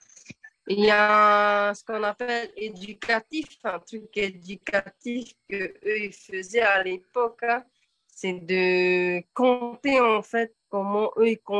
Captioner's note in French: En français